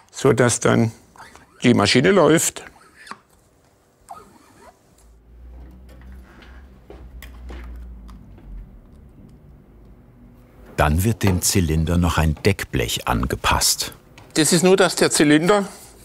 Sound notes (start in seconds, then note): 2.5 quiet whirring noise